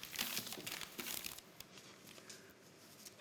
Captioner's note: sound of paper shuffling